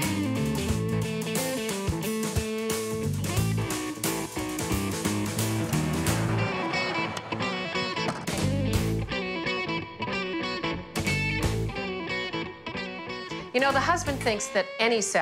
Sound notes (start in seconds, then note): 4.8 car passing; 5.2 trunk closing